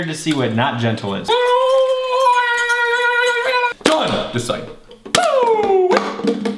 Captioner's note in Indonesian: Menangis